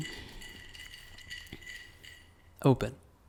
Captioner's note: ice swirling in glass